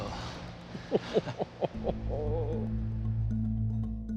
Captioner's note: laughs